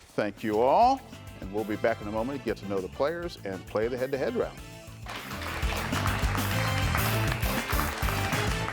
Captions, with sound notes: Thank you all. And we'll be back in a moment to get to know the players and play the head-to-head round. (audience applauds)